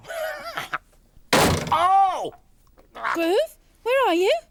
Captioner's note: loud crash; Groove yells